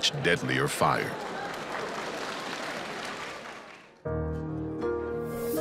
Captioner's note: audience applauding